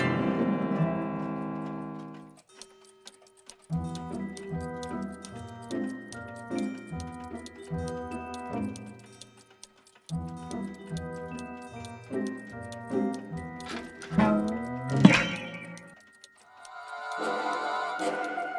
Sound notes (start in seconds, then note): 2.8 clocks ticking; 15.0 boing; 17.0 suspenseful music